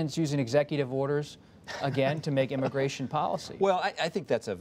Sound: laughter

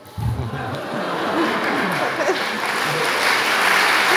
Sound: audience clapping

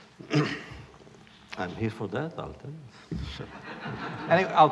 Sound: laughter

